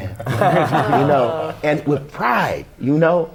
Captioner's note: laughter